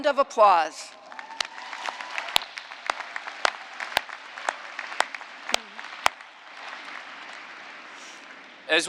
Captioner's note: applause